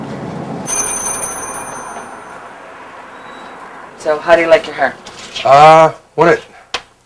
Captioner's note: bell ringing